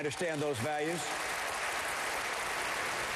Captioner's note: applause